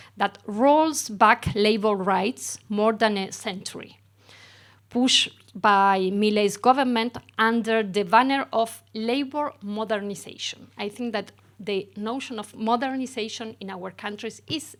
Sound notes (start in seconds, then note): none